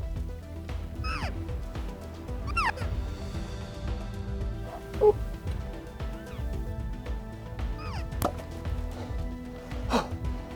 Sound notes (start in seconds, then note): 1.0 imitates an elk call; 7.6 bow thuds